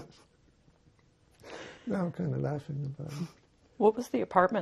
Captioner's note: laughing